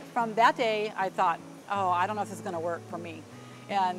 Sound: none

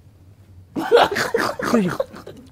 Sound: laughs

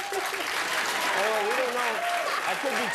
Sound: applause

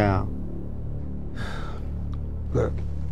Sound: father sighing

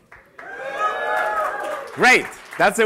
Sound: cheering

